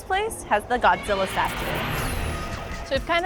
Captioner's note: Godzilla shrieking; beam pulsating